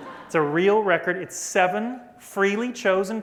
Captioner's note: laughter